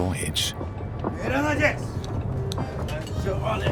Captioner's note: men shout in foreign language